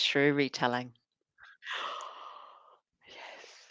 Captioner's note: gasps